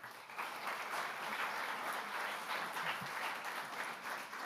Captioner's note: audience applauds